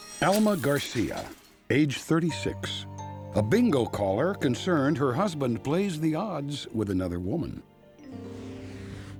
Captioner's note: none